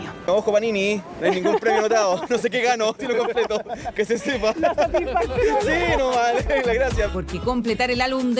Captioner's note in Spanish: risas